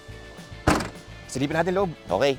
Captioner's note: door thuds